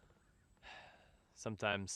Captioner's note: sigh